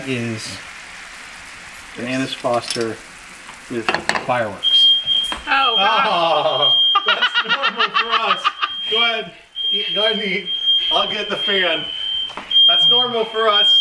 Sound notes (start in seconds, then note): 4.6 fire alarms blaring loud; 6.7 dogs howling and crying in background